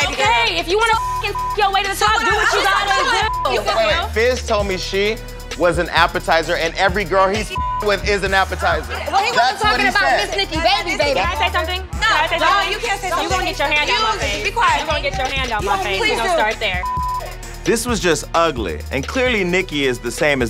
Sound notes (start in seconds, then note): 0.8 beep; 7.5 beep